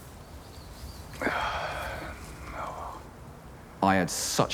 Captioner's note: he gasps